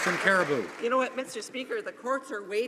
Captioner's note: some Applause